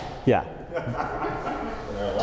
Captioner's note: laughs